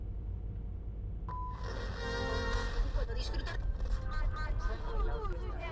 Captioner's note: radio; eerily chanting in foreign language